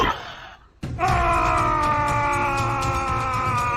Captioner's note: loud Shouting